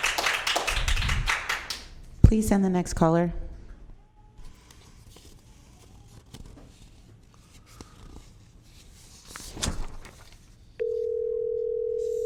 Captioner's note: applause